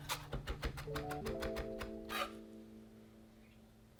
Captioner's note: chopping